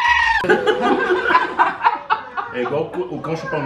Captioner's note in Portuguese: risos